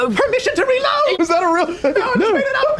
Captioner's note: laughing